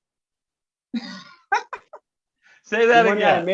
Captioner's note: laughs